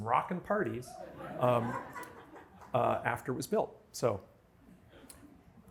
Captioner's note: laughter